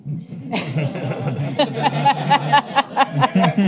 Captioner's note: laughs